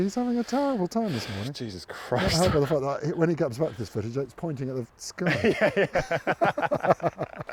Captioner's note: laughing